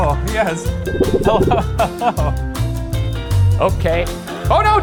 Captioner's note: chuckling